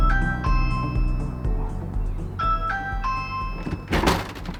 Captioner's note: doorbell sound